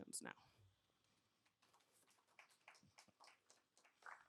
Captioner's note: applause